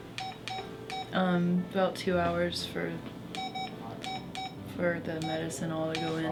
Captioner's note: machine beeping